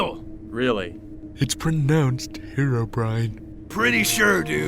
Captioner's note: hushed